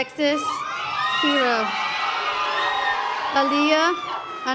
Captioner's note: audience applause